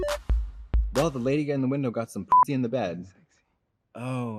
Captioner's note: bright, chirpy music; beep